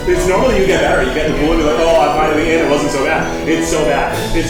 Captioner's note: mutters